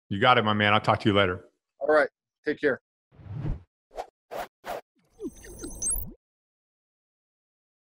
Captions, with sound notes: - You got it my man, I'll talk to you later. - All right, take care. (air sweeping) (high pitched glitching)